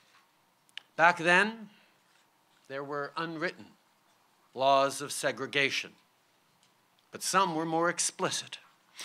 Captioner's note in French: none